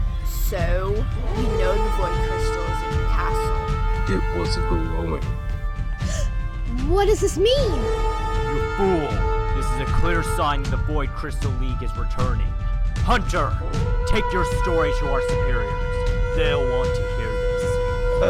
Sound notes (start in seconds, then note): 6.0 gasp